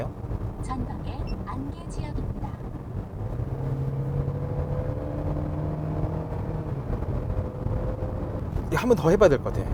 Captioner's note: GPS sound